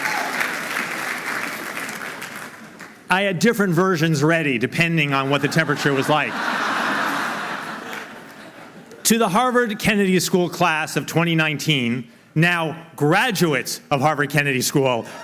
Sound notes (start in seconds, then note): 5.3 laughing